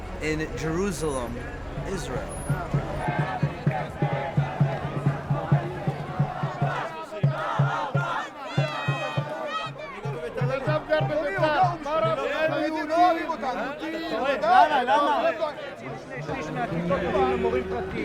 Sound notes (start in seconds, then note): 5.0 crowds shouting; 10.8 people shouting in foreign language